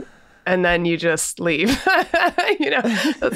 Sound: laughs

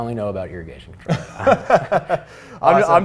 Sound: both laughing

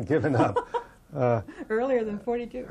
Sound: laughter

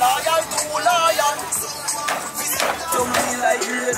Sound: crowd chattering; upbeat music; cleaver chopping

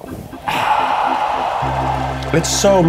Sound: crowd cheers

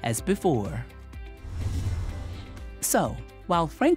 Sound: frame whooshes

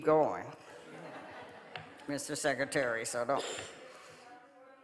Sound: audience laughing

